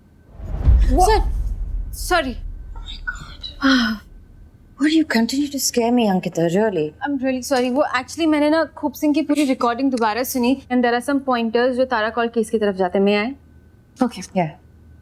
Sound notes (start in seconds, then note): 3.6 sighing